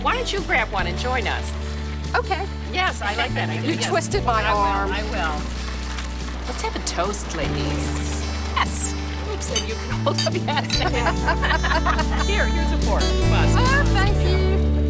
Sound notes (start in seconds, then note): 10.4 laughing